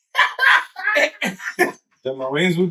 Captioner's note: laughing